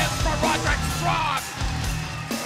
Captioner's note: bell ringing